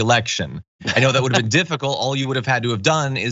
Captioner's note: laugh